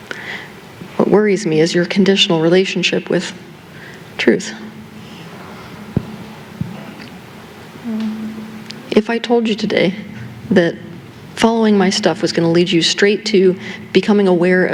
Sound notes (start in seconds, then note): none